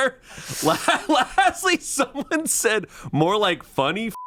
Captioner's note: laughs